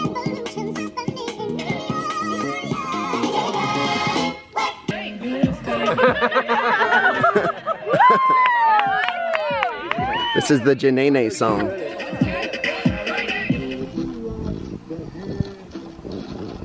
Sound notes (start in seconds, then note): 5.6 audience laughs; 7.8 audience cheers